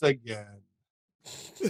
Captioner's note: laughter